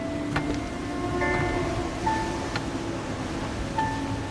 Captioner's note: water rushing